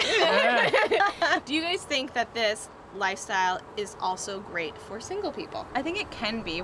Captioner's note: laughter